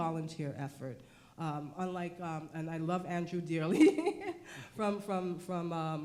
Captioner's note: laughs